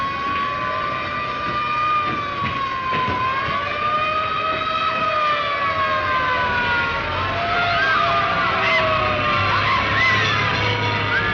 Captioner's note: siren wailing in distance